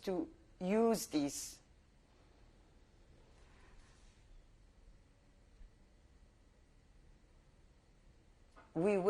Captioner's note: pauses for 7 seconds